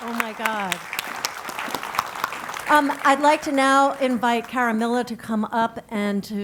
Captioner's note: applause